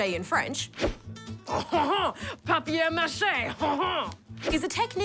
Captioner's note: french accent